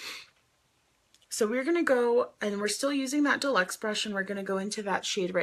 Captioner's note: sniffs